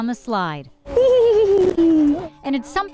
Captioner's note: giggles